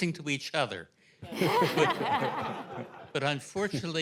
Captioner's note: laughter